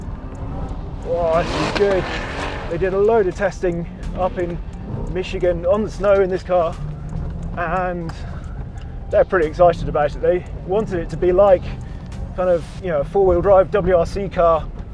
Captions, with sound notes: Oh, this is good. (car engine revving) They did a load of testing up in Michigan on the snow in this car, and they're pretty excited about it. They wanted it to be like kind of a four-wheel drive WRC car